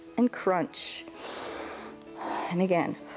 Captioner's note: exhales; inhales and exhales